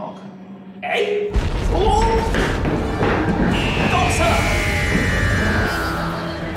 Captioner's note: crash and shaking